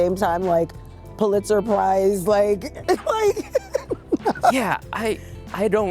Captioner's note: laughs